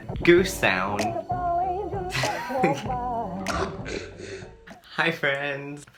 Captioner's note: choking noises